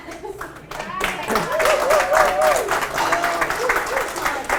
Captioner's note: audience applauds